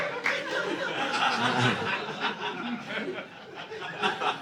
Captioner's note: audience laughing